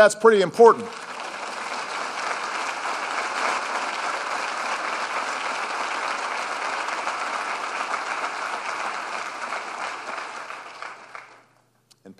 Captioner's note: applause